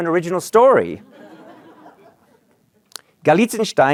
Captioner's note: laughter